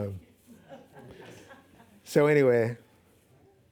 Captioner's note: laughing